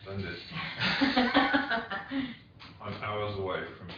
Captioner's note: all laugh